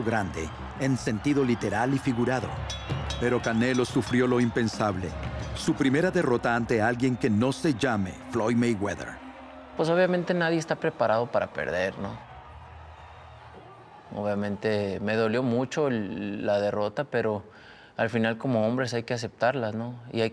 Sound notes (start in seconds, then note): 4.2 campanazos